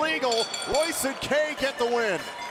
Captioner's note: bell ringing